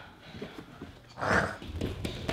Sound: dinosaur sound

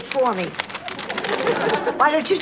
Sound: audience laughter

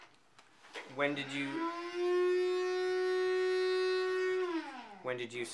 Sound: blender noise restarts

